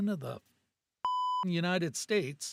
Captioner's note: beep